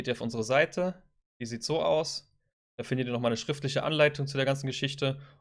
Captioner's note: German